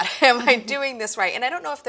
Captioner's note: laughter